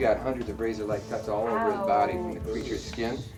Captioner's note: hisses